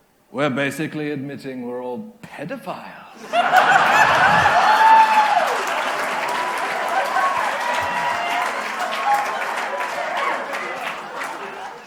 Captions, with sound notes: we're basically admitting we're all pedophiles. [Cheering/Applause]